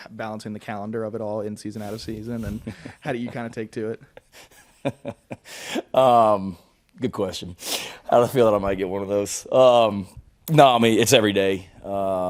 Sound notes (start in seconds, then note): 4.4 Shane laughing